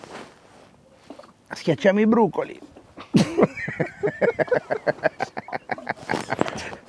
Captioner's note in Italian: Risate